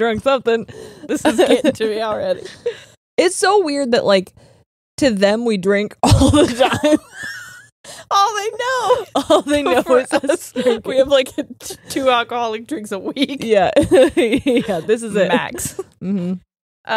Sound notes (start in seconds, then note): 6.2 both laughing; 13.6 laughs